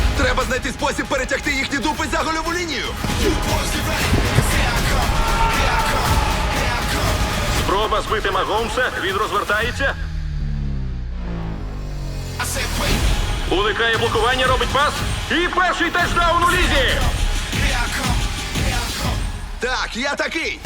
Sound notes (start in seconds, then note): 5.0 yells